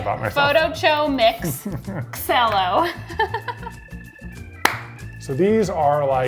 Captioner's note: laughs